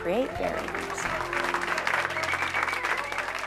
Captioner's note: applause